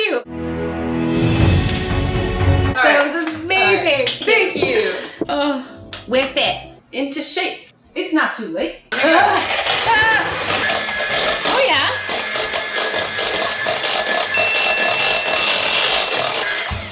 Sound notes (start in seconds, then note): 0.3 dramatic music; 9.9 mixer whirs; 14.3 bell dings